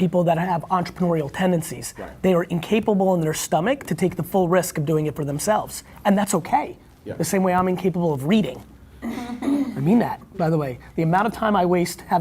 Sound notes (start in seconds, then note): 9.0 laughing; 9.0 throat clearing